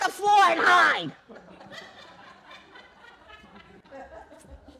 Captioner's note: laughter